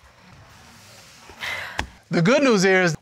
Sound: sighing affirmatively

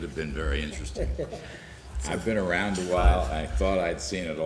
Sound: laughter

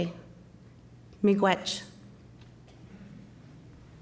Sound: speaking Chippewa

